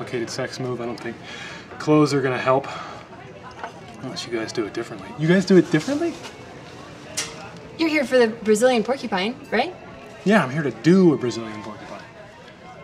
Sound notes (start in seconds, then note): none